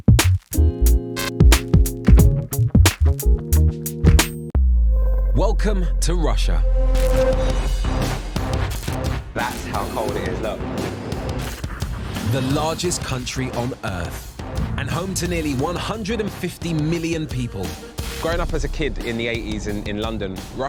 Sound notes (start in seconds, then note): 7.0 upbeat rock music; 11.5 exhales